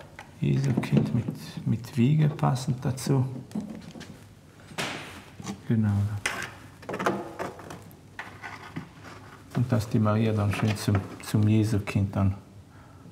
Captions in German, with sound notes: Jesukind mit Wiege passend dazu. Genau, ja. (Leises hölzernes Klappern) Und dass die Maria dann schön zum Jesukind dann ...